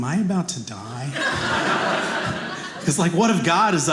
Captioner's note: audience laughing